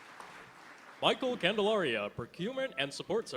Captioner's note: applause